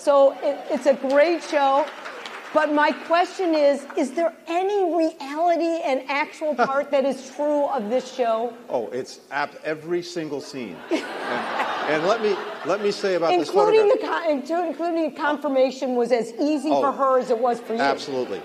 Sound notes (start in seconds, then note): 2.2 applause; 8.5 laughter; 10.5 laughter